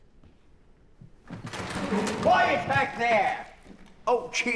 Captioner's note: theater door opening loudly